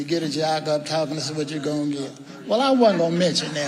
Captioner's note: audience member speaking quietly